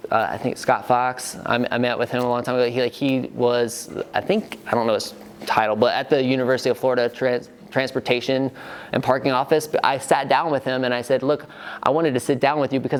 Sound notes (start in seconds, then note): none